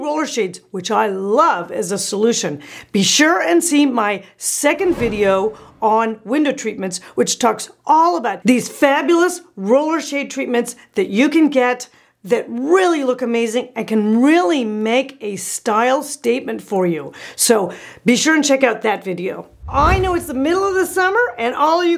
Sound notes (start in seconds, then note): 4.7 loud whoosh; 19.5 loud whoosh